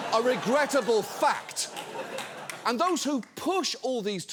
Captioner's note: studio audience laughs